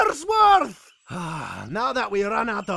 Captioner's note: sigh with a thick Irish accent